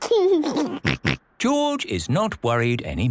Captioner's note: giggles